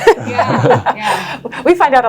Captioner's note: laugh